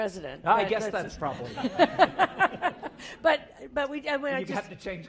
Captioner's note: laugh